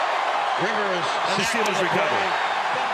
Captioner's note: pa announcement